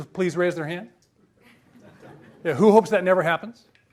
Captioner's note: audience laughs